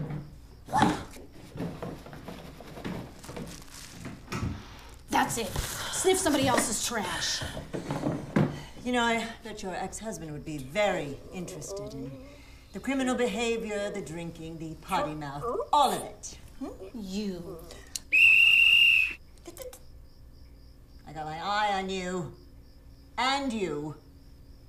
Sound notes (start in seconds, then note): 3.5 sniffs; 18.0 whistle blows; 18.9 tutting